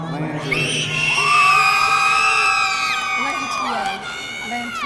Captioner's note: audience cheering